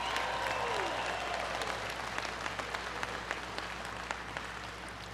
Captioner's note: applause